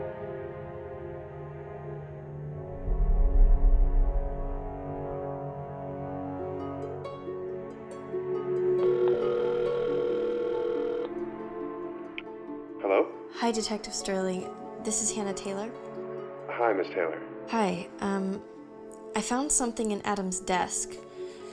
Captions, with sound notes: [ Ringtone ] Hello? Hi, Detective Sterling. This is Hannah Taylor. -Hi, Miss Taylor. -Hi. I found something in Adam's desk.